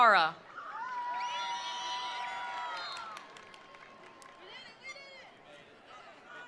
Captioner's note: attendees cheering; attendees applauding